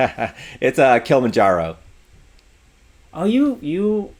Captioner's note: laughs